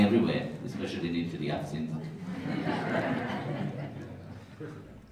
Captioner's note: laughters